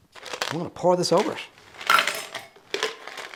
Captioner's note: ice clinking in cup